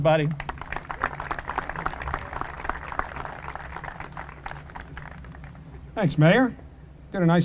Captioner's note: applause